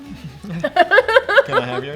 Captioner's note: both laugh